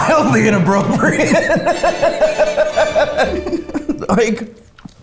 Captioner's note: laughing